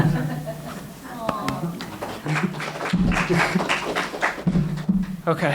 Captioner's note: audience applauds